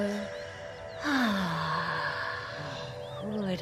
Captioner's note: all exhale slowly